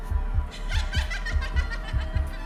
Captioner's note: laughing